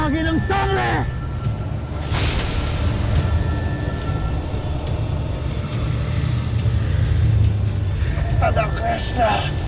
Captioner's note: evil energy whoosh & crackle